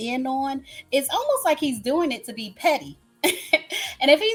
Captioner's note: laughs